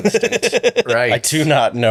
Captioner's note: both laughing